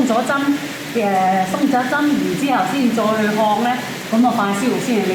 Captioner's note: foreign